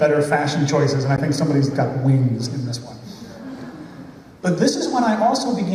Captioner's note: laughter